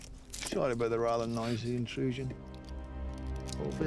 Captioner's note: scottish accent